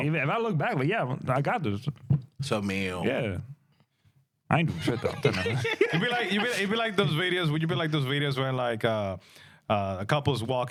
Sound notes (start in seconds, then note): 3.3 speaking In Spanish